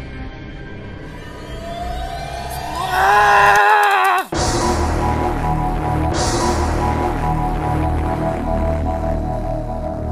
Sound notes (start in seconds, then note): 2.9 growling